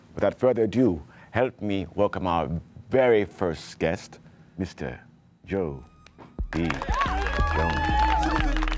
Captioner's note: clapping